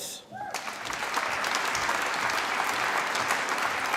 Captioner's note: applause